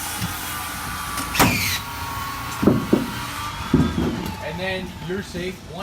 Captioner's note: nail gun whirring